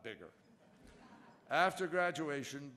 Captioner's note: laughter